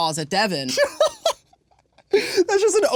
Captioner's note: laughing